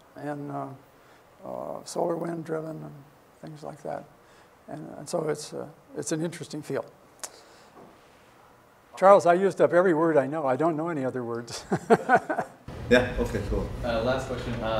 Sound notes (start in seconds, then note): 11.5 laughs